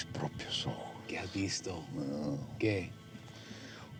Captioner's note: speaking spanish